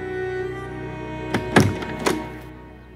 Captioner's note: Door closes